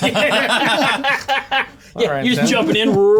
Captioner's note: players laughing